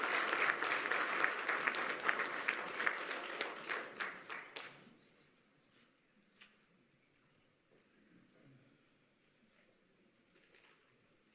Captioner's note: applause